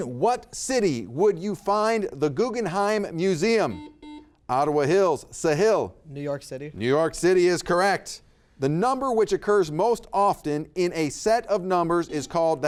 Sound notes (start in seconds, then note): 3.6 buzzer beeping